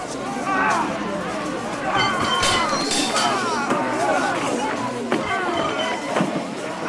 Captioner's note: crowd shuffles aimlessly as violence is heard in streets below